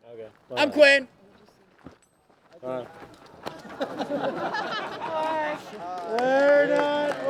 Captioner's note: laughter